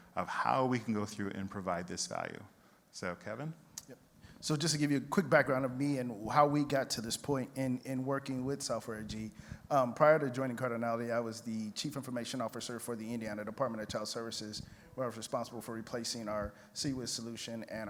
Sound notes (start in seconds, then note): none